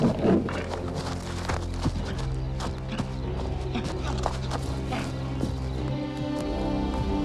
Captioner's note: bear growls; footsteps plodding; Hezekiah panting; tense music grows